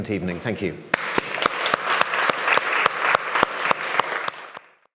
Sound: audience clapping

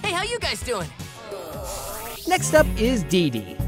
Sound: groaning

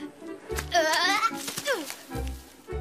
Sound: yells, grunts

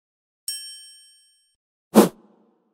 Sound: bell dinging; wind rushing

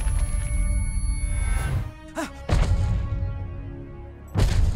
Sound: gasping

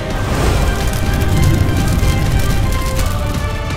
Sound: bubbles echo in the depths

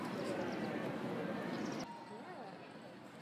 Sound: people talking

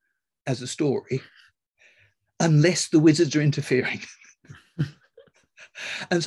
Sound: laughs

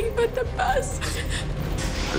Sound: sobs

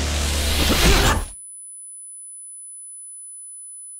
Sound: thudding

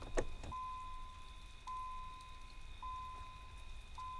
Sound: car beeps

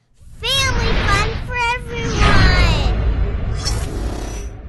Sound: voiceover

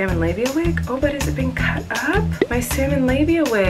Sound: popping

